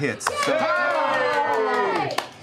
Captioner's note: cheering